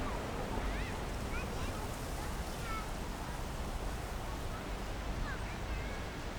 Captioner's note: wind rustling through trees